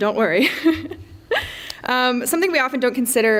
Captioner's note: laughs